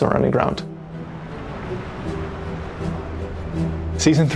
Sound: wind blowing

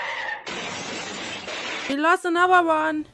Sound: car crash sound

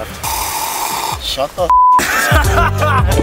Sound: slurping; beep; laughs

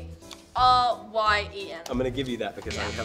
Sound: buzzer

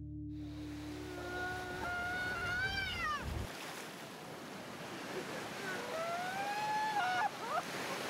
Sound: wailing, waves crashing

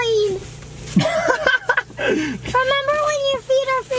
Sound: laughs

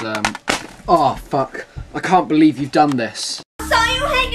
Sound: smack

